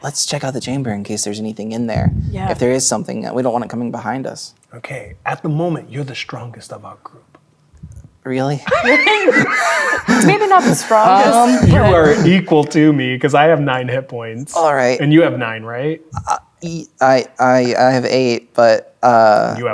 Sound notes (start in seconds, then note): 8.6 players laughing